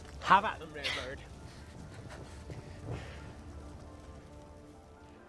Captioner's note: flames crackle